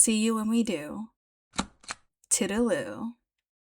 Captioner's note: stamp sfx